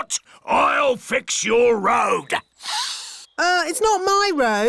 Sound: sniffs

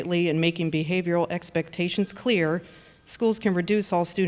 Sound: phone ringing

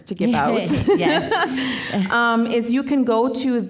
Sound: laughing

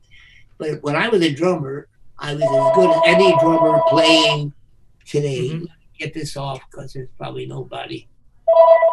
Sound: phone ringing

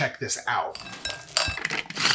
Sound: pistachios rattling; blender whirring; prunes rattling

